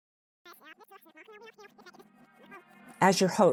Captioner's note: fast forward sound